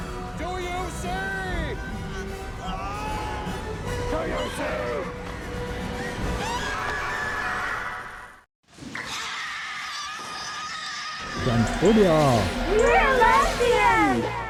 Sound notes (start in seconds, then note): 8.9 bodysnatchers scream